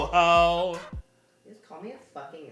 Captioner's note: confused Gay Silence